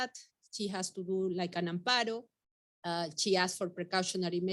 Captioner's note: speaking Spanish